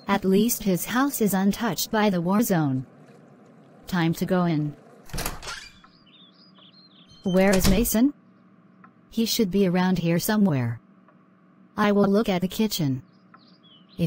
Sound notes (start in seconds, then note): 4.5 door Opens; 7.2 door Closes